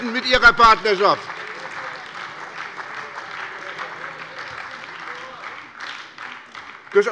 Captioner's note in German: Beifall bei der SPD